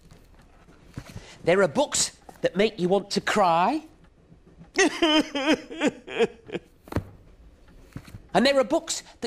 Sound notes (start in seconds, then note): 3.8 cries loudly